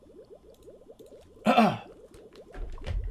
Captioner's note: clears throat